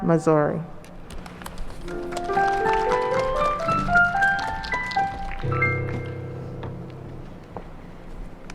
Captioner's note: applause and ♬♬ piano ♬♬